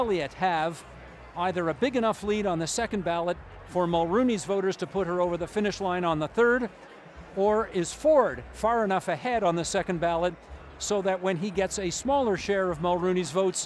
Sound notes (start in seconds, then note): none